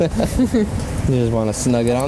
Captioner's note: both laughing